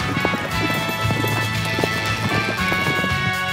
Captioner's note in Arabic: إطلاق نار